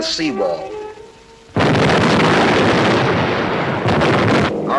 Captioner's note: bombs exploding